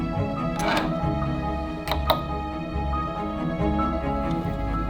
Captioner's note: scissor scrapes